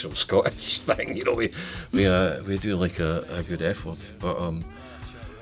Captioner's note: laughs